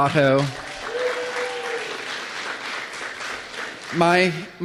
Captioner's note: applause